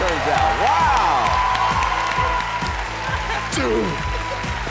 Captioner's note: cheering; clapping